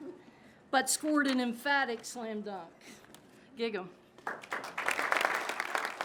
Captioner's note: crowd claps